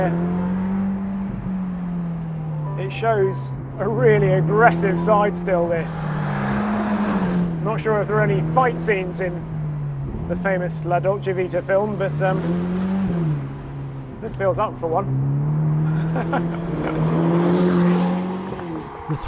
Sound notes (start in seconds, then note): 0.0 car engine revving; 6.0 car engine revving; 15.9 laughing; 17.0 car engine revving